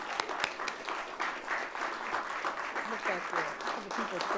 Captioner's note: all clapping